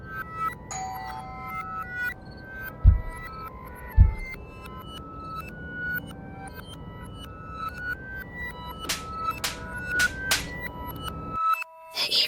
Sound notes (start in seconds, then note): 0.0 eerie music; 0.9 doorbell ringing; 3.0 air whooshing; 3.0 eerie music continues; 9.9 hands smacking